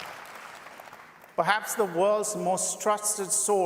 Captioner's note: applause